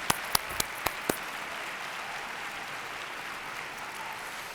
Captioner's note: audience applauds